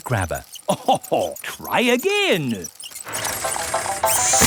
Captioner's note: chuckles